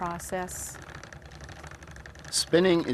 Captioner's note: wheel rattling